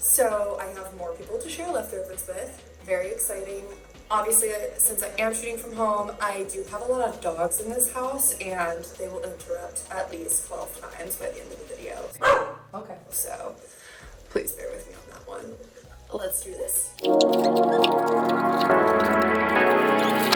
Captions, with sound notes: so I have more people to share leftovers with. Very exciting. Obviously since I am shooting from home, I do have a lot of dogs in this house and they will interrupt at least 12 times by the end of the video. (dog barks) Okay. So, please bear with me on that one. Let's do this. (electronic music)